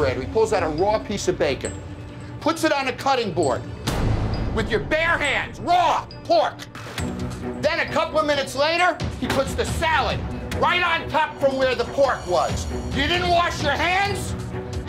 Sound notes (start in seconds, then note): 3.7 hand banging; 10.7 hand banging